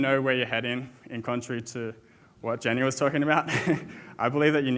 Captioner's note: chuckles